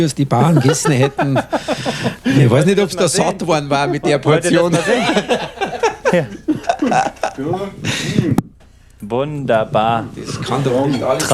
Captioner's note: laughing